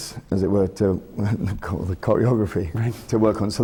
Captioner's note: laughs